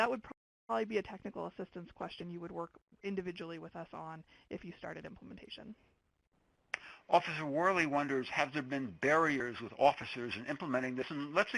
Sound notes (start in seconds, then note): 7.1 voiceover